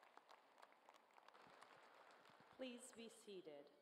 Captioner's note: applause